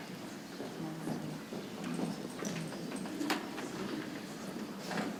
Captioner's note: people chattering softly